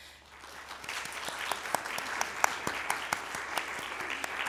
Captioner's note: applause